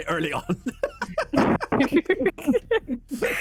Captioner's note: laughter